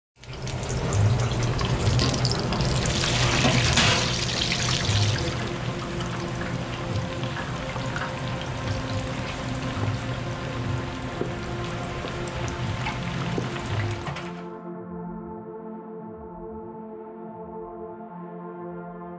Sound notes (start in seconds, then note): 0.0 oil crackling; 5.5 calm music